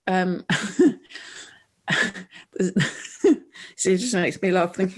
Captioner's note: laughs